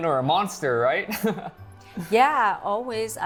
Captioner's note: laughs